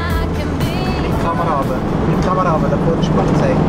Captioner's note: in Swiss German